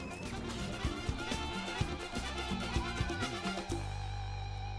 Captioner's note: goats bleating